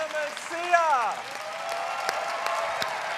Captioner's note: cheers and applause